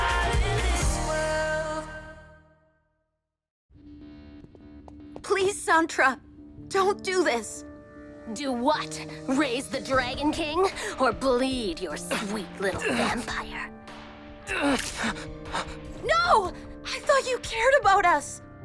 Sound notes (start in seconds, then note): 14.5 Max grunts